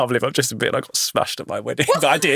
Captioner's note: chuckle